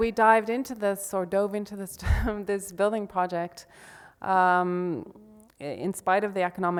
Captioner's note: laughs